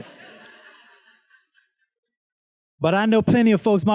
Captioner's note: students laughs